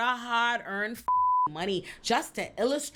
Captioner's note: beep